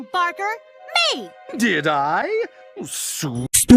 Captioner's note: voice crack